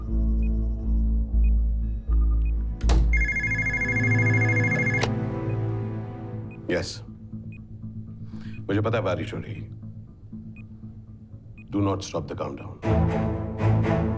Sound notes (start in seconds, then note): 0.1 beeps; 3.1 phone ringing